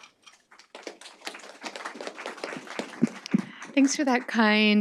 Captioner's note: audience applauding